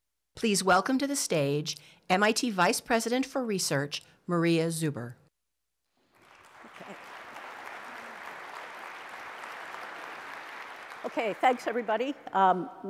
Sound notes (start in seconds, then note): 6.0 applause